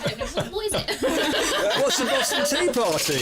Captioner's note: laughter